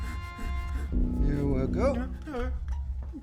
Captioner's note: crying